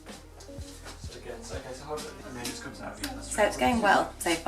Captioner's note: gentle jazz music; crew speaking quietly